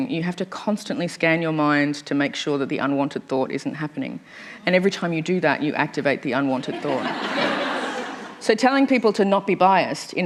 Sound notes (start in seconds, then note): 6.7 laughter